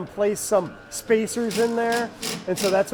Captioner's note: tool rackets